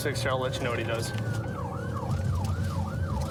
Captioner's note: siren blaring